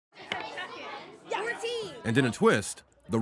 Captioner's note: children chattering